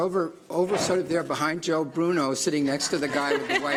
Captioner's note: laughter